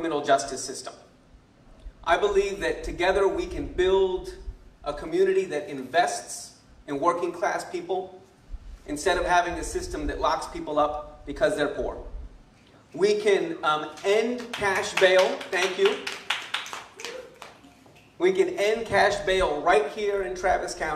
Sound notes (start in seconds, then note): 14.4 clapping